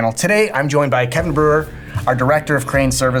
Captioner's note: text whooshing